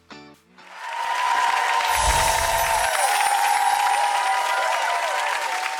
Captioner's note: crowd cheering and applauding